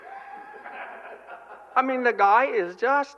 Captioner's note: laughter